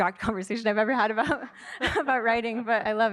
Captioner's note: laughter